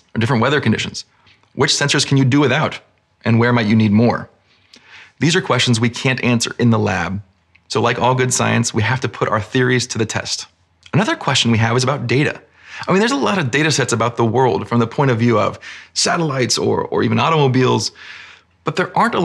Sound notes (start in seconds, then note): none